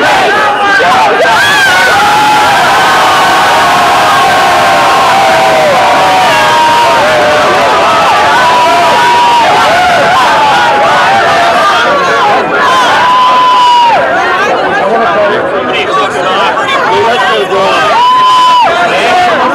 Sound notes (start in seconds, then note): 3.1 shouting